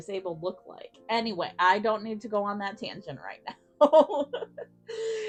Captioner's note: giggles